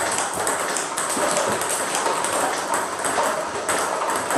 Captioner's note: ball ping pong hitting continues